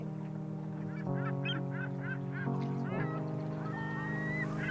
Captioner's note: birds squawking